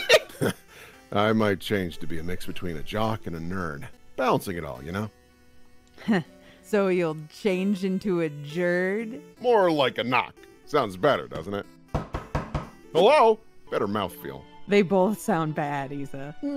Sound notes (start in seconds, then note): 11.9 knock knock knock knock